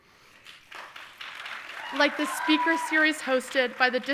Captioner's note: audience applauding